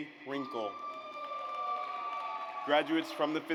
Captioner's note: audience applauds